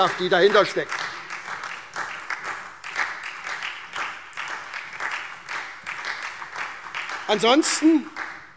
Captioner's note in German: Beifall SPD